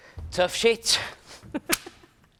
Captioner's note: laughs